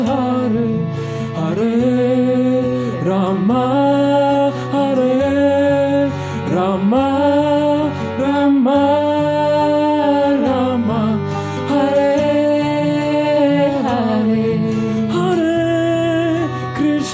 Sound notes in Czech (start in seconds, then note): none